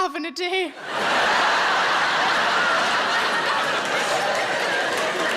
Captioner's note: audience laughing